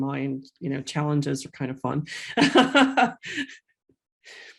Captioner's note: laughs